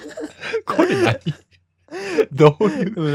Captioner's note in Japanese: 笑い